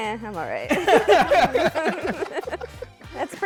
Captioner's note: laughter